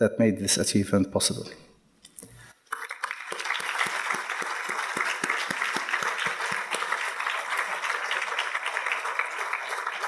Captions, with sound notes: that made this achievement possible. (audience applauding)